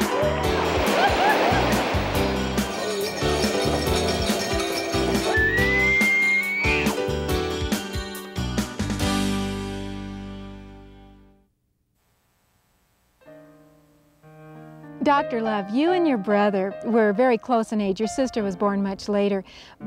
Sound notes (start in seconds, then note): 0.0 rafters cheering; 2.2 jingling; 5.2 moose calling